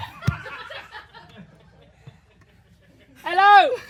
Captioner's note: laughter